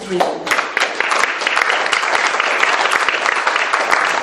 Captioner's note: audience claps